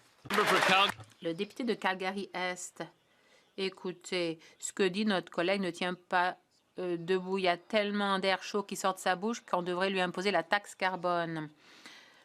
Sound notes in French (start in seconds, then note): 5.8 voix de l'interprète